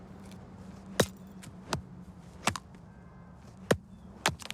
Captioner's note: hammer thudding